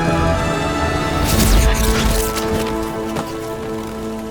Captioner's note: zapping